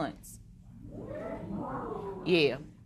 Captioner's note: spectators murmuring